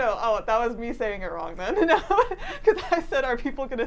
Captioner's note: laughing